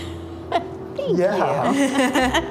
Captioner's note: laughs